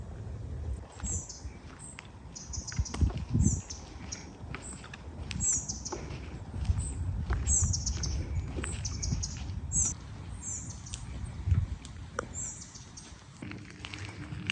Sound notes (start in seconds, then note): 0.0 wind howling